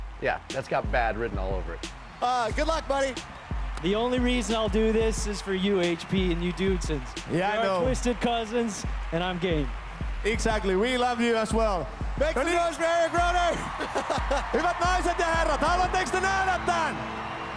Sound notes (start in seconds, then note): 13.3 applause; 14.1 speaking finnish; 15.2 dramatic music